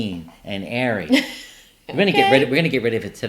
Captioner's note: laughing